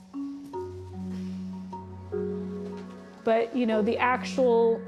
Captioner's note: breathes deeply